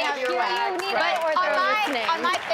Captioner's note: audience clapping and laughing